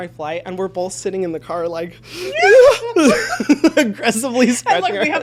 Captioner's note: both laughing